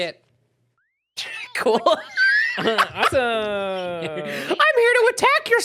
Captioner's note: laughing